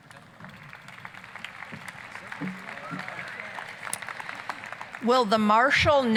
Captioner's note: applause